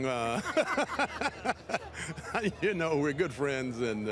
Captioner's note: laughs